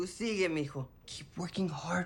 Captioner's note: speaking in Spanish